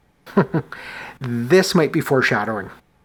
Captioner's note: chuckles